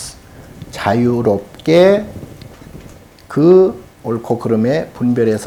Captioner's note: speaking Korean